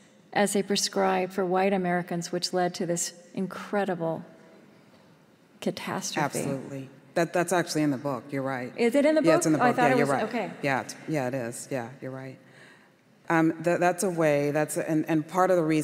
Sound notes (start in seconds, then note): none